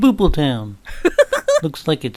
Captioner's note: Emma laughs